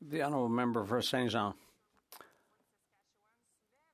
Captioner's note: speaking French